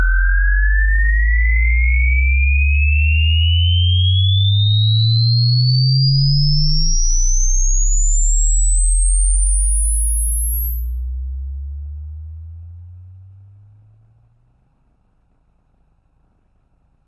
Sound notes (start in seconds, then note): 1.7 ominous sound